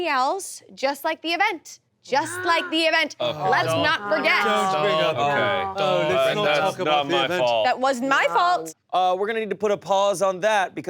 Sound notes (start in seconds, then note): 4.3 overlapping chatter